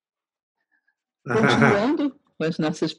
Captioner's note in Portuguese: haha